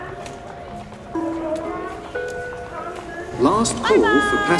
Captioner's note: people chattering; bell dinging